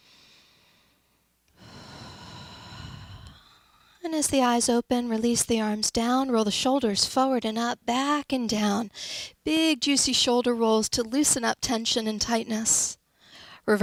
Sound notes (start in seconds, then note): 1.6 exhales deeply